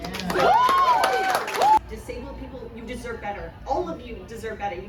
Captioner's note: crowd cheers